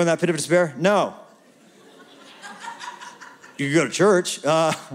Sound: laughter

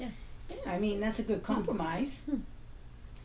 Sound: voiceover

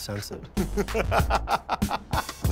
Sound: laughter

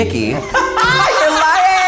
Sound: all laughing

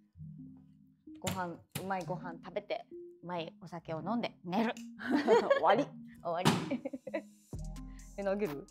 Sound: laughs

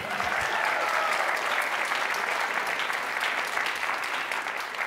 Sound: cheers and applause

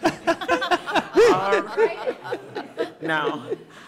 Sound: audience laughing

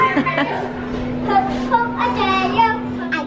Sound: children playing

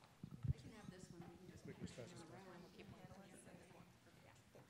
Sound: speaking quietly

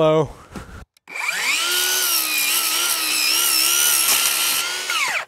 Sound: saw whirling

